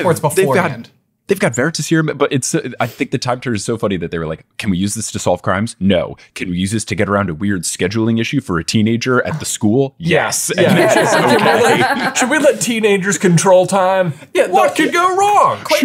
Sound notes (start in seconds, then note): 10.6 everyone laughing